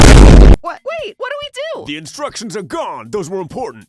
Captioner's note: none